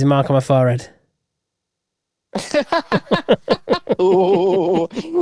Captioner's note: both laugh